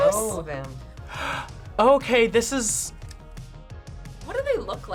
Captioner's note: gasps